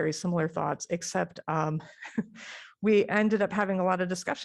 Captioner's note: laughter